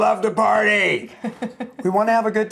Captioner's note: chuckles